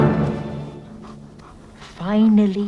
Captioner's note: Beast panting